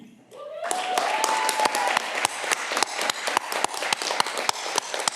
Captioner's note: audience clapping